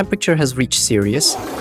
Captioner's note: fartttt